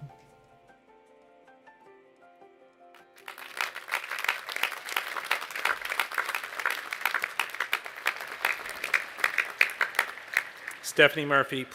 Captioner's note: applause